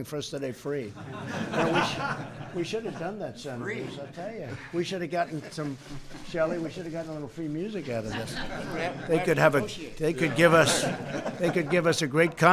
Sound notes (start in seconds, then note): 0.9 laughter; 7.9 laughter